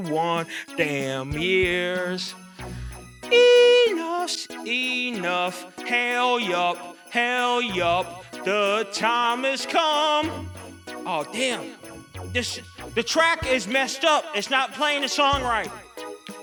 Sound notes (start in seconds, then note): 3.4 falsetto; 4.5 drops an octave